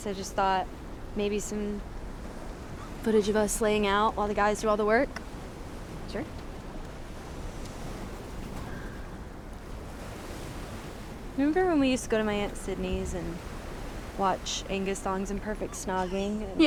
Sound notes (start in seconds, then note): 7.7 waves lightly crashing